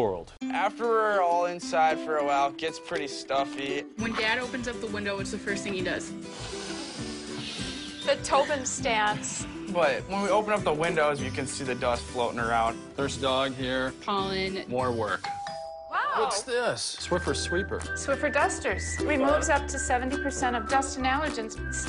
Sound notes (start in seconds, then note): 6.2 sniffs air; 6.2 kid sniffs